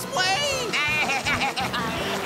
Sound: baaing

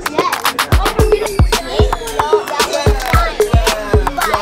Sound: multiple kids laughing and chattering; descending whistle

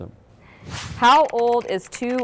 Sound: air whooshing; keyboard clicking

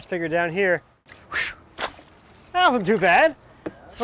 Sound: splashing

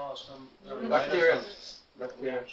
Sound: crowd

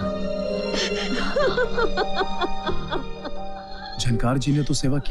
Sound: crying

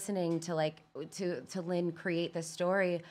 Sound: none

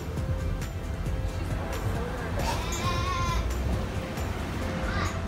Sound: doe bleats

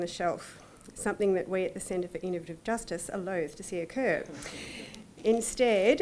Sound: audience chuckling

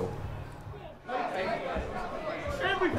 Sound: crowd talking

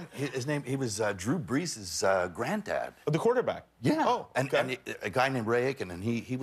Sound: laughter

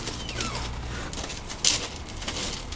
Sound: gate opens

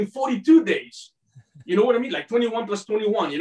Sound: chuckling

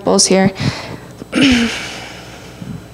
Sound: clears throat

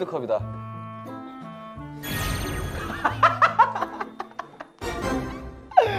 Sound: bursts out laughing

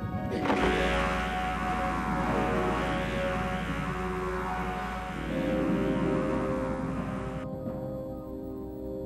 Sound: laser noise, monster growls in agony

